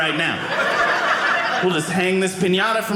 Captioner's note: audience laughing